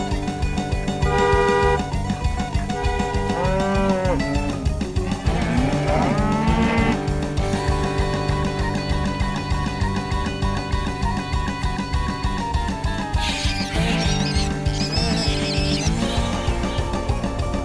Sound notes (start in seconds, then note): 3.6 cows mooing; 12.3 pig squealing